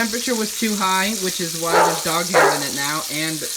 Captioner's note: bark